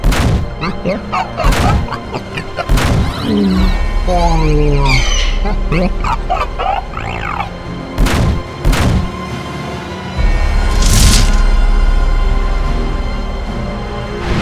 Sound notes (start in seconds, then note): 0.1 footsteps booming; 0.6 laughs; 4.2 sighs; 4.8 bird screeching; 5.3 laughs; 7.9 footsteps booming; 9.5 dramatic instrumental music